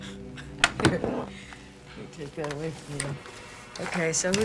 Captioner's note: chuckling